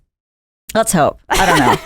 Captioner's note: laughs